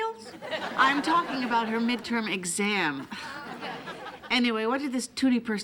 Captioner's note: laughs